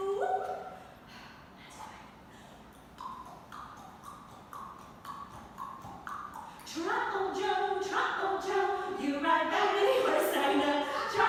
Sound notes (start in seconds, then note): 2.2 exhales; 2.6 clicking tongue